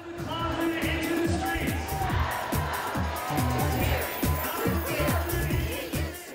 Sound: crowd Chanting

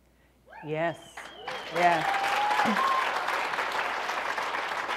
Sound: applause

